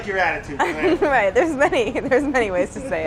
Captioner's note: laughs